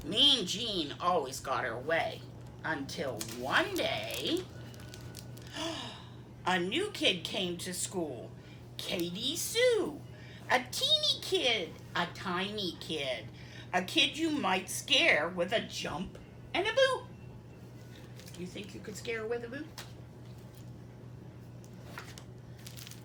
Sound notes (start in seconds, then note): 5.5 gasp